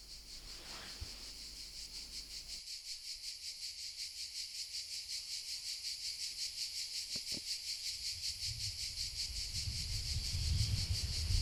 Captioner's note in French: chants de cigales